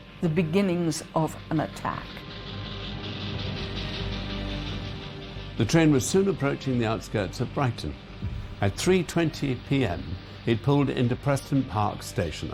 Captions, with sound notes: the beginnings of an attack. (dramatic orchestral music) (train chugging) - The train was soon approaching the outskirts of Brighton. At 3:20 p.m., it pulled into Preston Park Station,